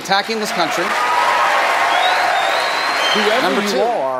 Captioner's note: cheers